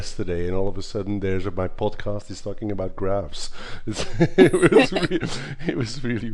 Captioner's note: laughs